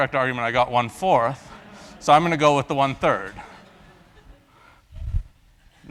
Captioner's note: laugh